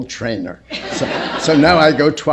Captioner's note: laughter